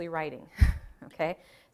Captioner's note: chuckling